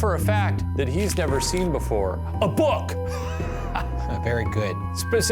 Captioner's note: laughs